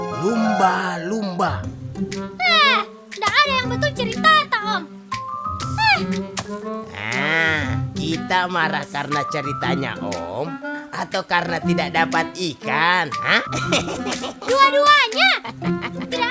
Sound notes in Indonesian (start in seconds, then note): 13.2 Tertawa